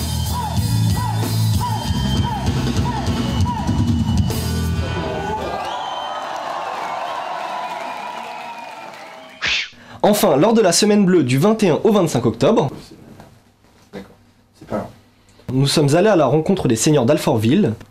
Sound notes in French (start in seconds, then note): 4.7 Cris de la foule en délire